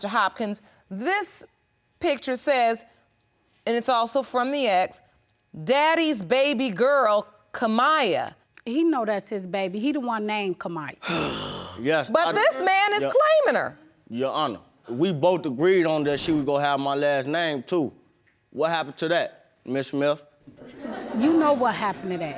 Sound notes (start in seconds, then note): 11.0 sighs; 20.6 audience laughs